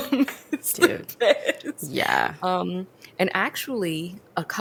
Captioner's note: laughs